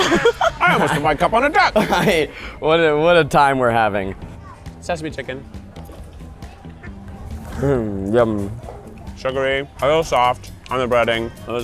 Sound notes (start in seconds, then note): 0.2 crew laughs; 2.2 laughs; 4.7 upbeat music